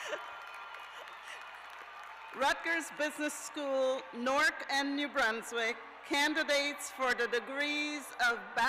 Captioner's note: cheers and applause